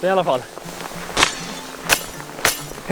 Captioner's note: excessive chopping